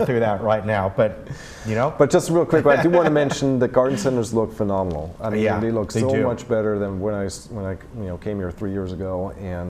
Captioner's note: laughing